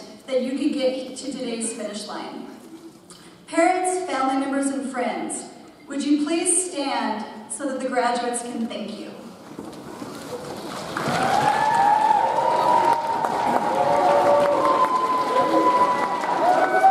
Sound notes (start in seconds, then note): 10.6 audience applauds; 11.0 audience cheers